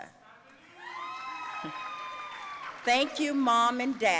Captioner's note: audience cheering